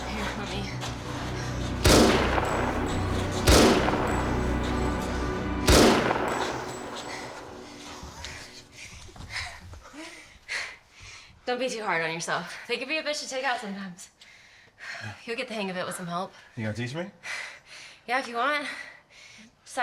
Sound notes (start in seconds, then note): 1.8 gun shots